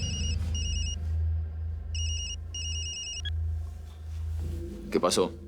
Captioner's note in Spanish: Suena celular